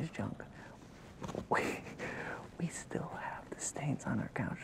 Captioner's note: laughs